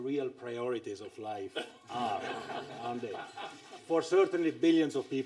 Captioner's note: laughter